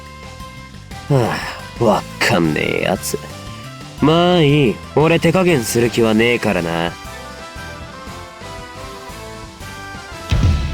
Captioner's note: sigh